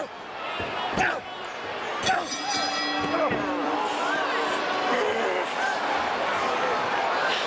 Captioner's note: fighters grunting; bell ringing